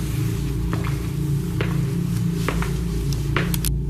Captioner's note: footsteps